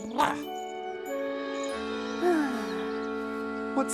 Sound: hisses

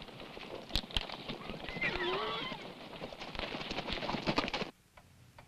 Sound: horse whinnies

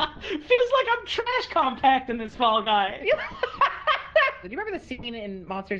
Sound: laughs; laughs

